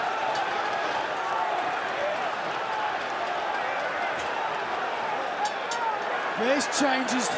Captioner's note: crowd cheering